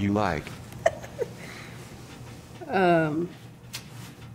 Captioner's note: giggling